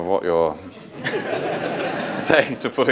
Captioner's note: audience laughing